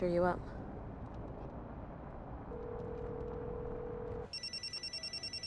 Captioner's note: phone ringing